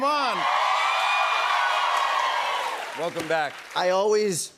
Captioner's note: cheers and applause